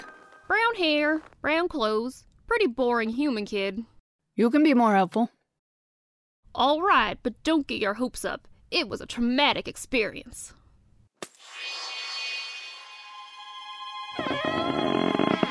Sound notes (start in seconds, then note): 11.2 sound of transformation; 14.1 creaking sound